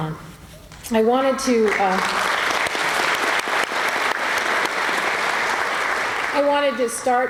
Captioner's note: applause